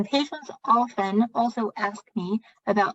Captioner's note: speaking chinese